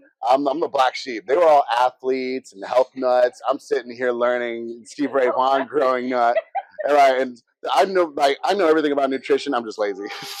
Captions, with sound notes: I'm....I'm the black sheep. They were all athletes and health nuts, I'm sittin here learnin Stevie Ray Vahn growing up. (laughs) And like.....I know like... I know everything about nutrition I'm just lazy......